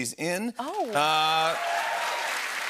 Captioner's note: cheers and applause